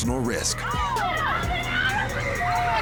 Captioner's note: all shouting